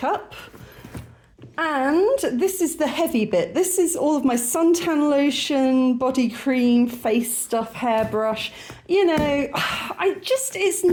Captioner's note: sigh